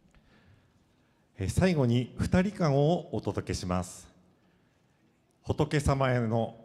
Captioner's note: speaking foreign language